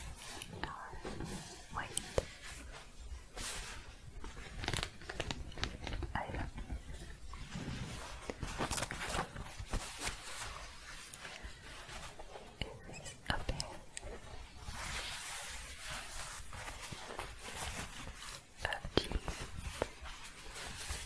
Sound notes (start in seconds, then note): 2.4 scratching denim; 6.8 scratching and shuffling